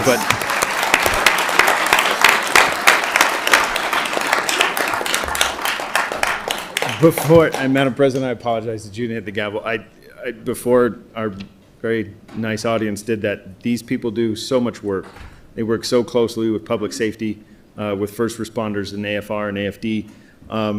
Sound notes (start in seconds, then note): 6.3 applause